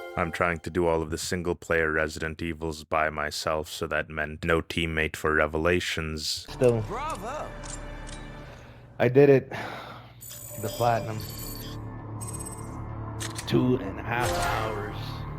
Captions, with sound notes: I'm trying to do all of the single player Resident Evils by myself so that meant no teammate for revelations -still I did it! *sighh* the platinum two and a half hours